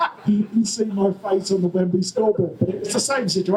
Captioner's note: audience laughter